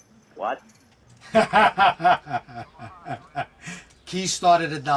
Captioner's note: laughing